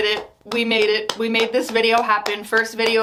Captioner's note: clapping